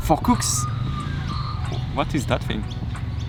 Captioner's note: strange bird noise in the tree